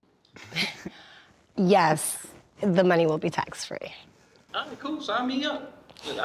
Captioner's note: laughs